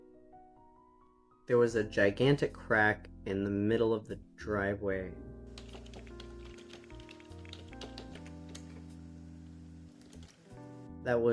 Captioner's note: typing and clicking